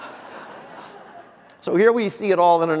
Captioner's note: audience laughter